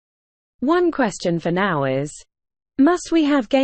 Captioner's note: british female voice